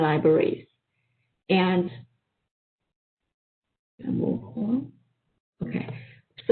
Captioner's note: pause